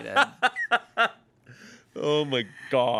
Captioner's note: laughs